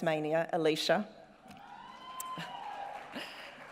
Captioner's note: cheering and applause